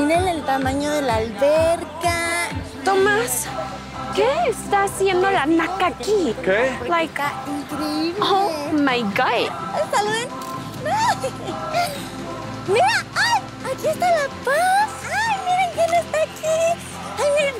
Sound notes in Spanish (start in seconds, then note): 10.7 Ríe